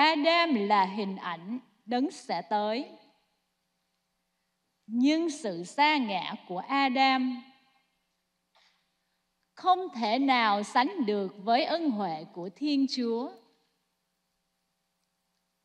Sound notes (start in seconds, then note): 1.7 speaking non-english